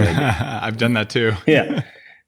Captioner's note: laughs